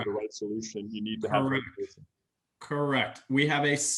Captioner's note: audio glitch